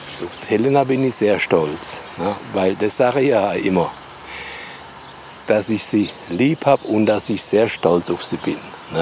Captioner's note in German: none